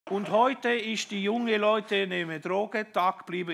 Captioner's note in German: mit italienischem Akzent